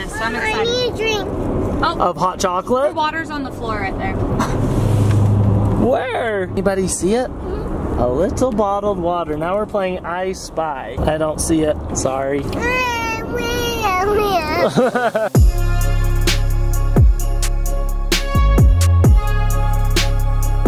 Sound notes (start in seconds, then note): 12.7 laughs; 12.7 whines